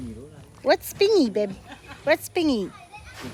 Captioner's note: speaking in Samoan